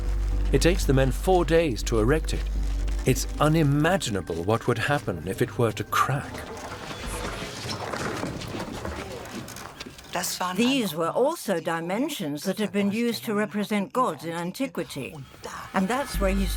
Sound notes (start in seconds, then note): 3.5 marble block crashes against pole; 3.5 ropes tense